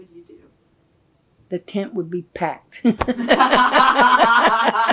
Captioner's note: laughter